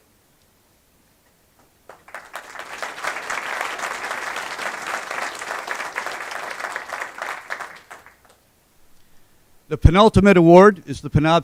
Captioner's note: applause